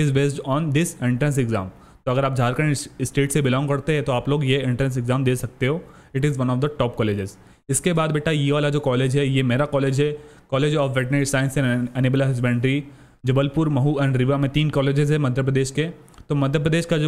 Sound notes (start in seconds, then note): 1.8 breathing heavily